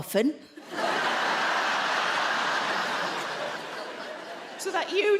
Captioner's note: audience laughing